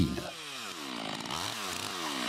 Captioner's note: engine noises